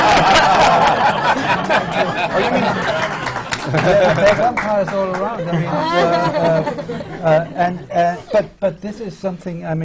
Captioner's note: huge burst of laughter and applause